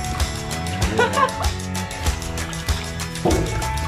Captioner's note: laughing; upbeat music